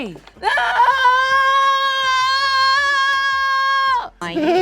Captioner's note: yells